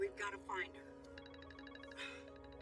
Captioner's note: cellphone ringing; sighs